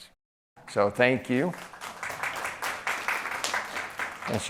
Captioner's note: applause